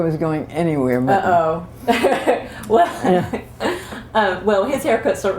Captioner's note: laughter